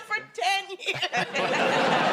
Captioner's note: laughing